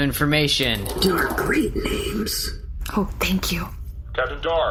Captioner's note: whispering